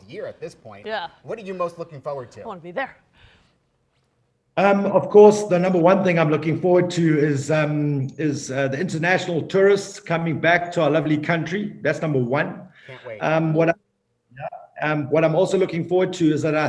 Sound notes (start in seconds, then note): none